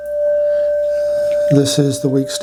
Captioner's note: phone ringing